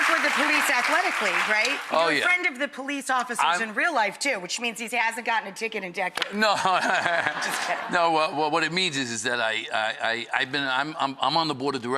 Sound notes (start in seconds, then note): 6.4 laughter